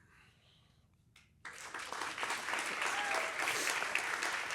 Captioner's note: applause